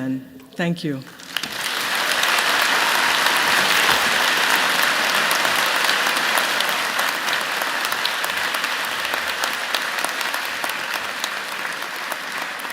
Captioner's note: applause